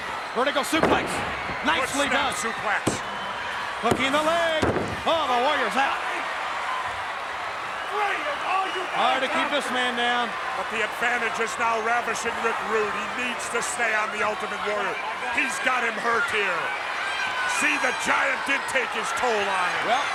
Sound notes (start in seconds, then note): 6.5 applause